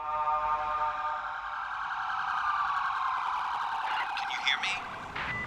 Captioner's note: sirens